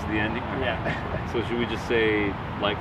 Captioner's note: laughs